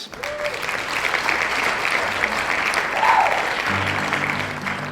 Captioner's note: applause